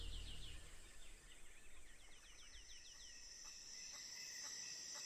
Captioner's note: crickets chirping